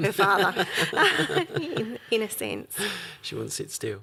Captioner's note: laughing